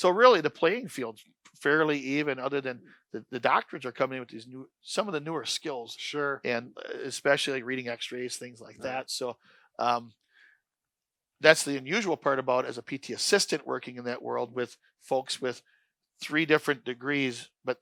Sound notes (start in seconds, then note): none